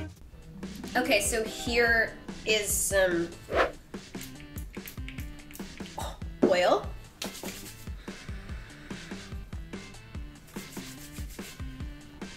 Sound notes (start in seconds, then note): 7.2 rubs hands